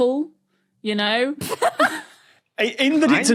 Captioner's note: blurts laugh